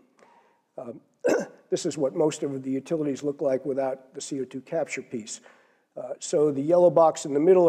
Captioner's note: cough